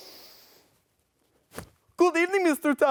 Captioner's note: Dracula inhales